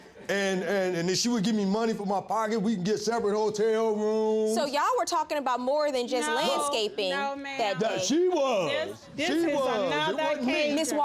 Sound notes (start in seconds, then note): none